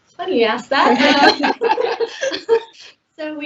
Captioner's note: laughter; all laughing